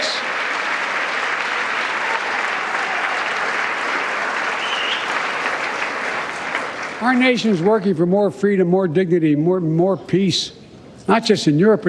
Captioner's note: cheers and applause